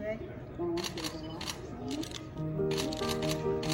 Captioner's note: camera shots; upbeat music